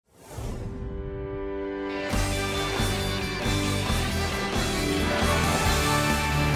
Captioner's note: air whooshing